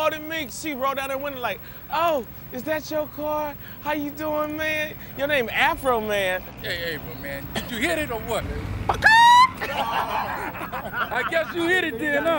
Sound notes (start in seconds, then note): 7.5 crows; 9.0 laughter